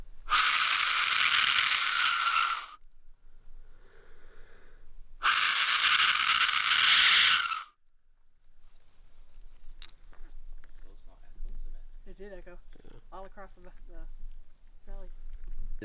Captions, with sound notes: [blows] [blows] - How did that go? All across back the... alley.